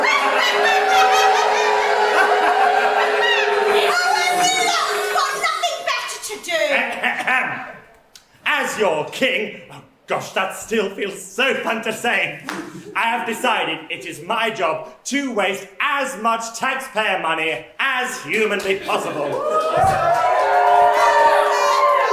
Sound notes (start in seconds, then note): 3.8 evil laughter and boos